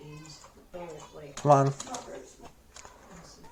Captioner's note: banging on keyboard